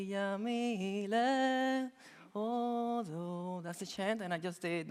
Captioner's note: chanting in a foreign language